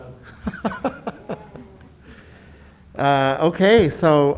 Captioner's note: laughing